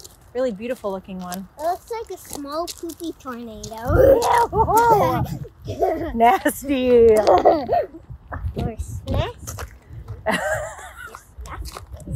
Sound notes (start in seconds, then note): 3.8 laughing; 6.9 guffawing